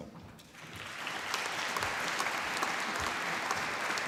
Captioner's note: applause